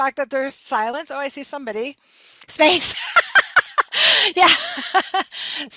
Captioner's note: laughing